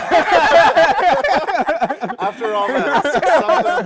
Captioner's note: laughter